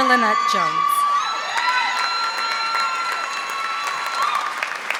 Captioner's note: audience applauding